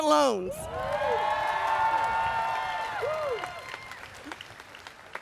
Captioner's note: audience cheers and applauds